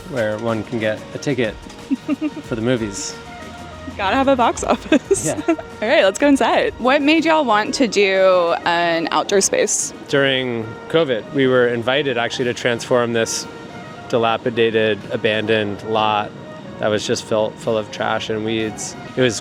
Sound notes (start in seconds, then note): 4.8 laughs